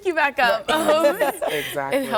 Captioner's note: laughter